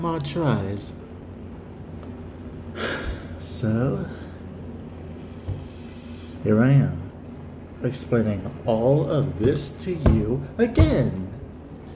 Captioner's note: relieved sigh